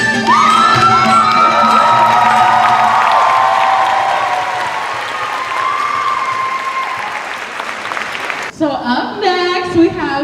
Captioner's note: cheers and applause